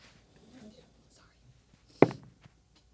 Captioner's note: whispering; dice rolling